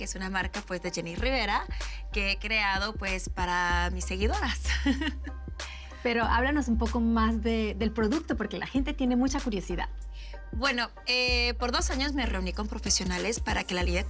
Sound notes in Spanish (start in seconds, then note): 4.6 Risas